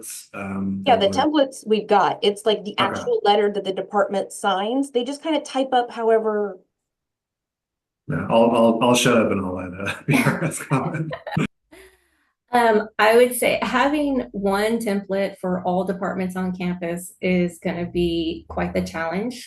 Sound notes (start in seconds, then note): 10.6 laughing